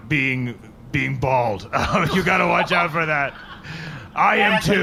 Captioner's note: laughs